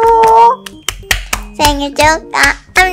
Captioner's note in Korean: 짝짝짝